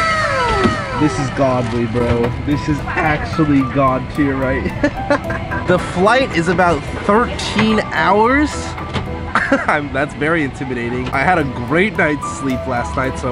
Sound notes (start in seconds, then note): 4.3 laughs; 9.2 laughs